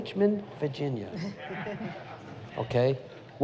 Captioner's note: laughter